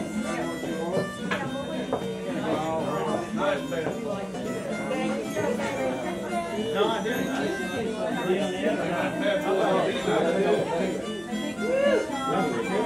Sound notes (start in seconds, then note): 2.4 harmonica music; 2.4 people chattering